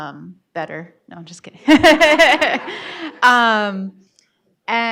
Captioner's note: laughs